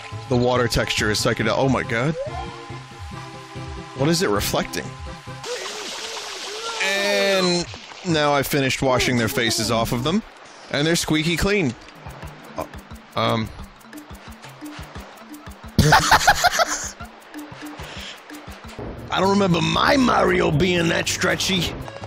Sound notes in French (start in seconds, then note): 15.8 éclat de rire désopilant